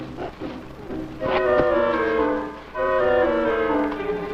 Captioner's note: mortar firing